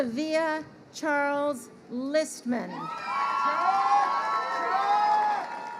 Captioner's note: crowd cheering